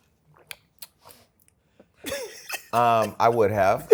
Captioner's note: laughs